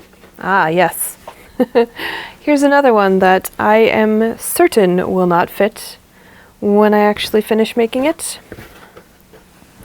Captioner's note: laughs